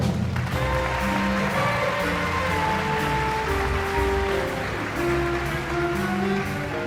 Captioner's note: applauds